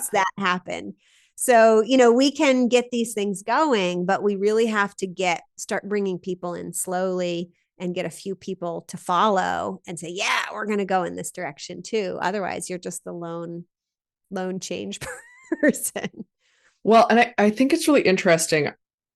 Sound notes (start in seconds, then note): 16.2 laughs